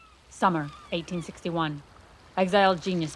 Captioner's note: seagulls calling, waves crashing